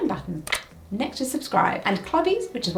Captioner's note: computer mouse clicks